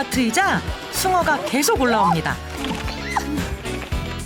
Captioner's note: flapping